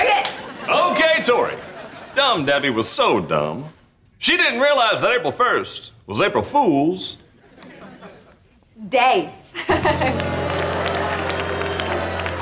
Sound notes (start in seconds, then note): 9.5 chuckles; 9.7 applauding